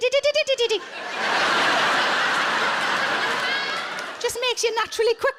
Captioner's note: audience laughing